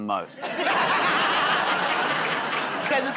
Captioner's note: laughter